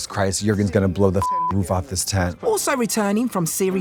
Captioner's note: beep